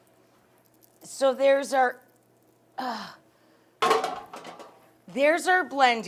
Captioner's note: pot clangs